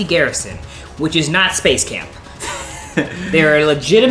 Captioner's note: laughs